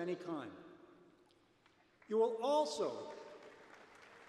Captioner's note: applause